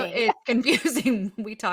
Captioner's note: laughs